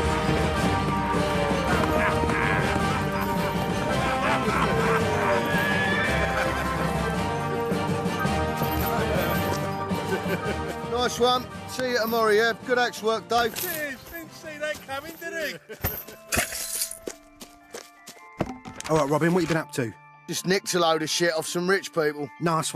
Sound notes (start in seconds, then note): 15.8 Sound of Robin throwing the sacks and quiver of arrows to the ground